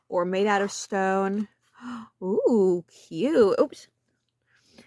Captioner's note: gasp